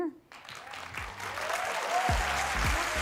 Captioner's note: applause; upbeat music